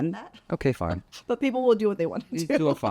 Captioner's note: laughs